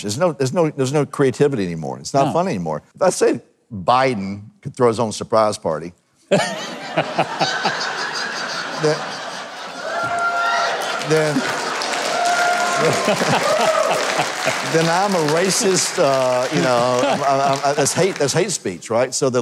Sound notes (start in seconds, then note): 6.3 people laughing; 10.2 audience applauding